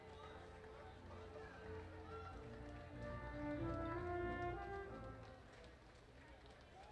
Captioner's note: people chattering; orchestral music ending